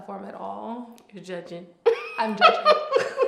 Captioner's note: laughs